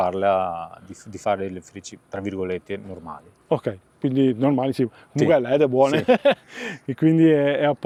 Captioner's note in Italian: risate